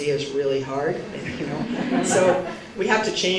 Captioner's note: laughter